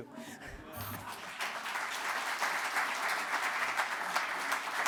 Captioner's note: audience applauds